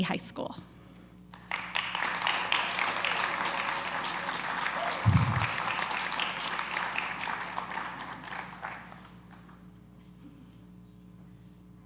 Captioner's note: applause